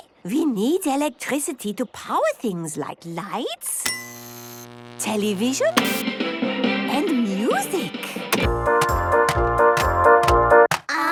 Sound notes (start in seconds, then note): 3.8 light bulb buzzing; 3.9 TV static, show music; 8.2 clicks, music plays